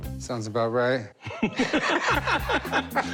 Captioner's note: laughter